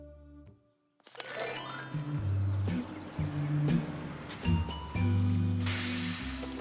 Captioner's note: brakes hissing